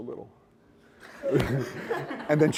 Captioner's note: laughter